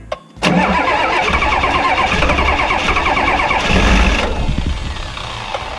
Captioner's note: car engine struggling to start